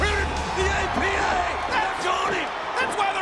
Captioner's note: audience cheers